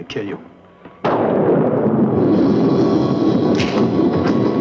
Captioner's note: thunder crashing; fist thuds; suspenseful music